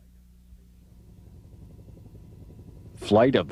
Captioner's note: helicopter rotors